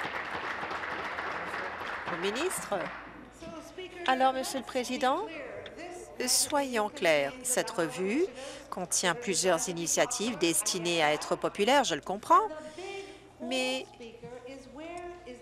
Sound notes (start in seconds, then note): 3.1 applause